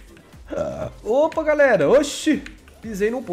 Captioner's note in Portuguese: arroto